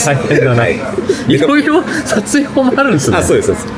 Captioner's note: laughs